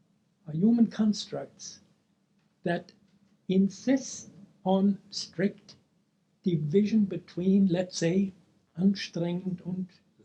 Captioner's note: speaking German